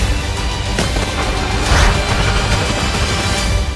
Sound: snarls; music fades

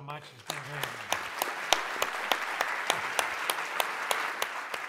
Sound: applause

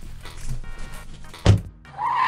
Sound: car door shuts; sound of car driving off

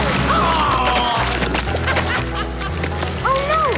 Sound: laughing

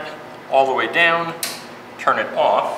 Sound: clicks

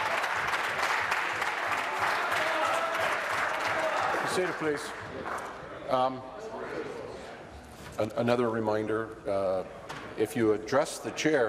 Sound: applause

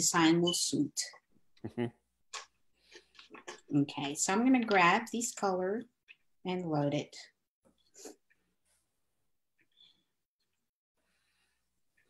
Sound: humming

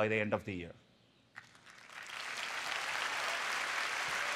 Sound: applause

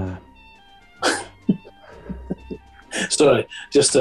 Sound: giggling

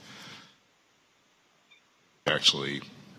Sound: audio cuts out

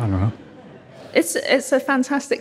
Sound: audience chuckling

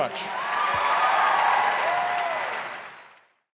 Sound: audience cheering and applauding

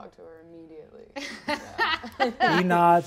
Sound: all laugh

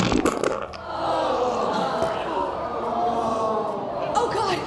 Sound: pooping noises; groans

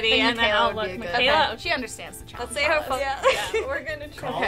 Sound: laughing

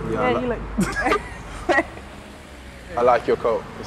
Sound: laughter

